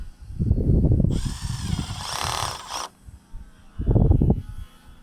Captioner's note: drill whirring